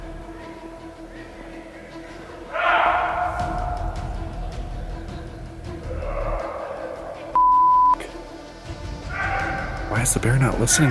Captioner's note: yell echoing